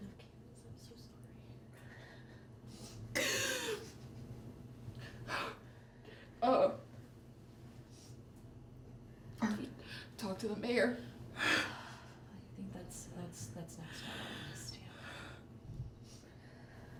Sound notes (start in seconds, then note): 3.1 inhalando